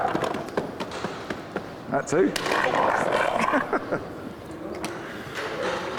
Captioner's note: laughs